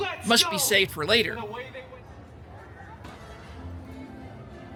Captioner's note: none